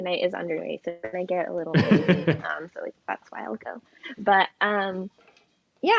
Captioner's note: laughs